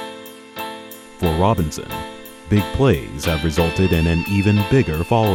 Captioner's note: voiceover